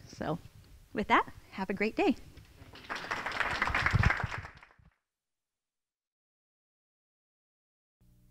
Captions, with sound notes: So with that, have a great day. (audience applauding)